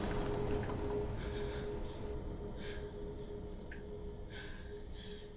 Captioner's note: Casey breathing heavily